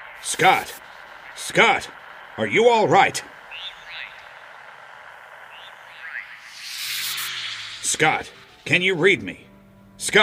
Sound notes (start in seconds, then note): 3.4 voice echoing; 7.0 echo reverberating